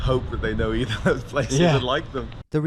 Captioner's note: laughs